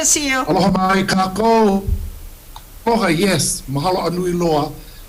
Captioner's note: speaks Hawaiian